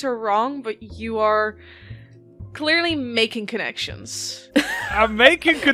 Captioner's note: laughter